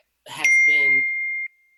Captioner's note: beeps